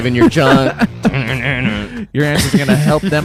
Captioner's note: laughs